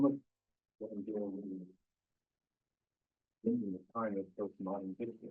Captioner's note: presenter speaking faintly off mic